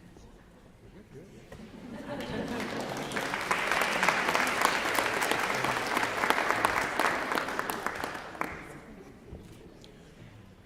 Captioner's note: applause